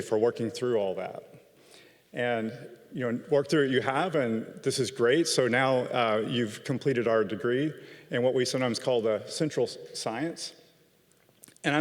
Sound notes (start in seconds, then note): none